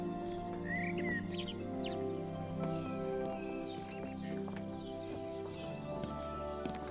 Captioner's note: birds chirping; gentle music